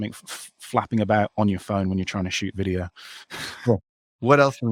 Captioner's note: chuckles